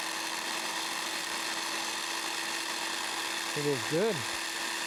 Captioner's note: food processor spinning